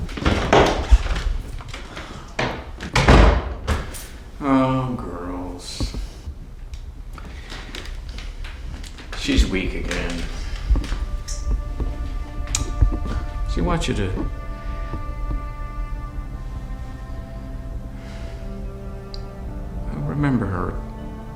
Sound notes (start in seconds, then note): 0.0 objects rustling; 3.0 door closes; 10.8 brooding music